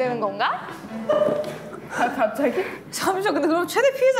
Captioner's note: the room buzzes again